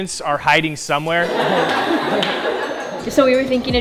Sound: students laughing

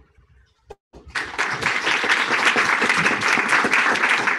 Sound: applause

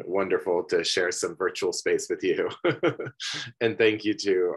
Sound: laughs

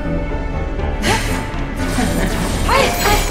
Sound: eerie Laughter

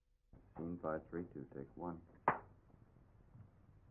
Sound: clap

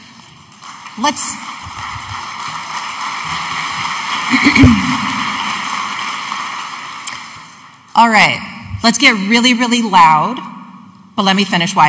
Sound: audience applauding

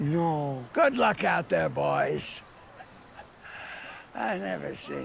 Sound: chuckles

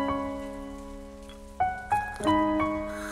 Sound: slurp

